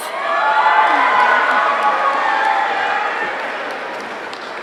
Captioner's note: audience cheering